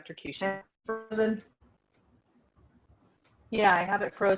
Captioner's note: sound loss